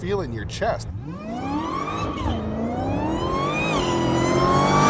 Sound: car engine revving

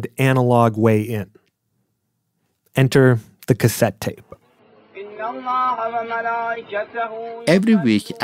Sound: sounds of praying

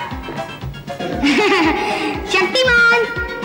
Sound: chuckles

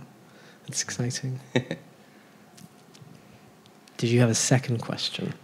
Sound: laughs

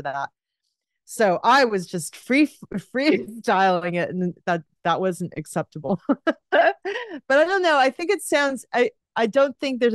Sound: laughs

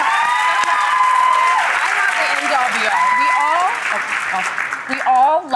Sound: audience cheering

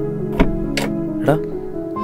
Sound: car door opening

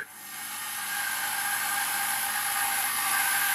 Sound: shrill sawing noise

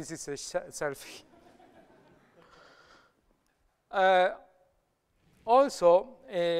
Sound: laughter

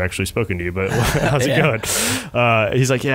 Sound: laughing

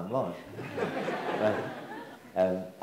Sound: audience laughs

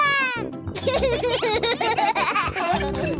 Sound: giggling

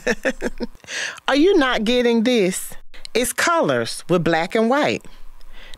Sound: laughs

